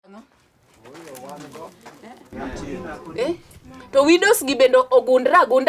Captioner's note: people conversing in a foreign language